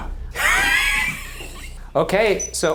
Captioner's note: laughing